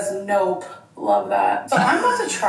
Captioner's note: laughs